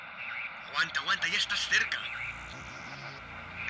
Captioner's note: voice from a walkie-talkie